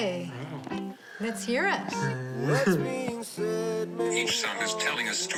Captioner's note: chuckles